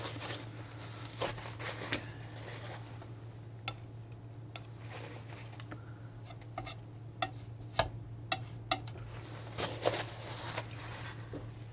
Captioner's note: tapping